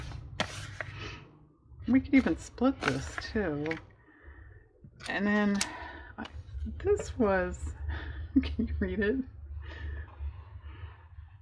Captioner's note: laughs